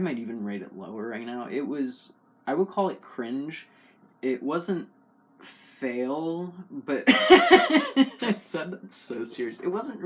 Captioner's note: laugh